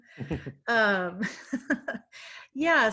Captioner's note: laughing